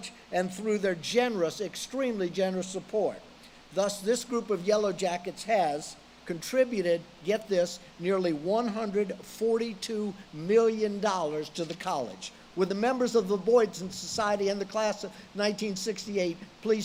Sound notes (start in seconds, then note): none